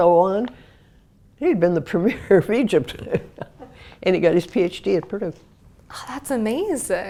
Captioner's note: laugh